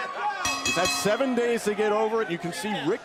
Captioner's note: bell ringing